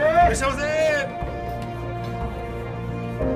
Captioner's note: speaks japanese